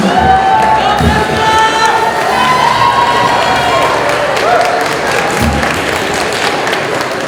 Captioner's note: cheering